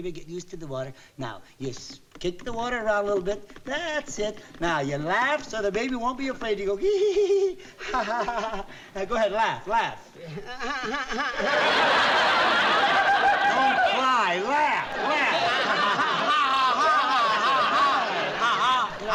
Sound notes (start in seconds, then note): 6.9 laughing; 10.6 crying; 15.8 laughing